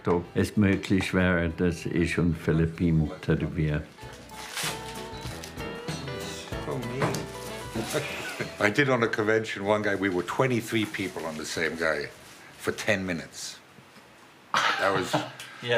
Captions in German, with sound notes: ob es möglich wäre, dass ich mit Filip tätowiere. (Lockere Musik) (englisch:)